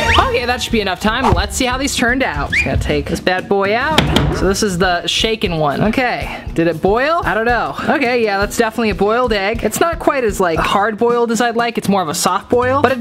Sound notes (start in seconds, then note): 3.9 banging